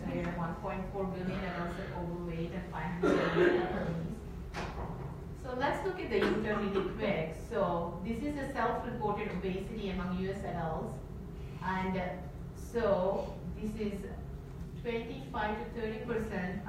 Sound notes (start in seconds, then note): 6.2 audience member coughs